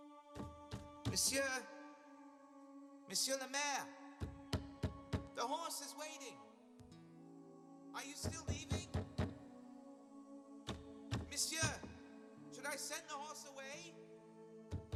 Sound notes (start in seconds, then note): 0.3 knocking; 4.3 knocking; 8.3 insistent knocking; 14.7 knocking continues